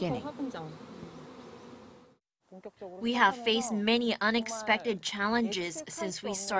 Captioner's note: Korean